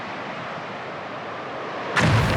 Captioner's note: explosion